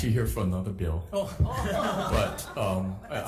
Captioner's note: people laugh